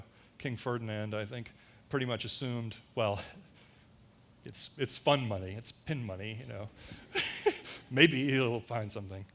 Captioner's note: laughter